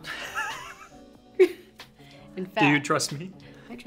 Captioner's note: laughs